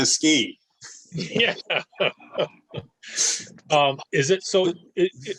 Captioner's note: light laughter